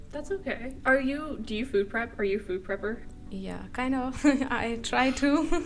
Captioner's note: laughter